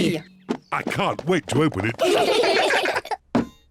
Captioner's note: all giggle